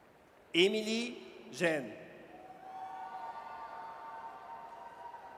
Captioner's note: audience cheers